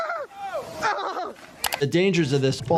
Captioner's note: screaming